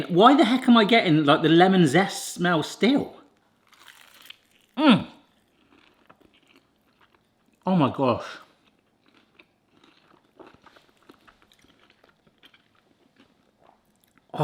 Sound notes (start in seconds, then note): 5.5 munching; 9.7 munching